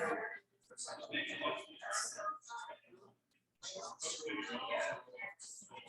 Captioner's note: people chattering indistinctly